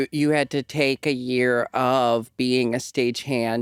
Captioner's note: none